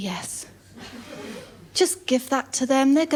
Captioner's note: laughter